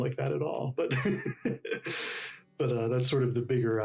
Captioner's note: laughs loudly